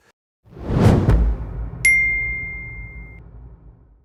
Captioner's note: air whooshing